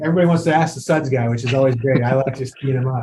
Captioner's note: chuckles